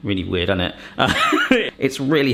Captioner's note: laughs